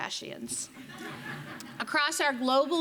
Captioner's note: audience laughing